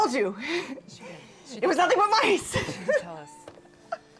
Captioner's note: laughs